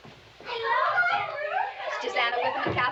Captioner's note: girls talking excitedly